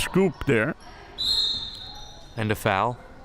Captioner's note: whistle chirping